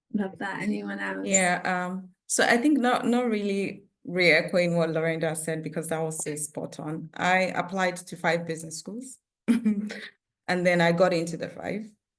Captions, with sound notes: Love that. Anyone else? Yeah. So, I think not really reacquainting what Laurinda said, because that was so spot-on. I applied to five business schools, (chuckles) and then I got into the five.